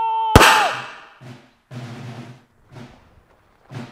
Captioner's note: gunshot blasting; suspenseful music